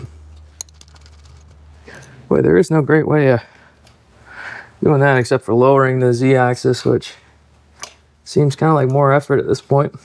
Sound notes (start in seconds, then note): none